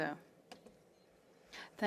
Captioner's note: speaking French